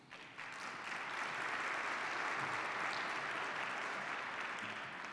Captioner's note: participants clap